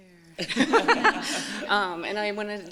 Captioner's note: laughter